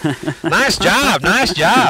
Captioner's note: laughter